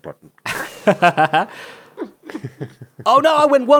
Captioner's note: laughs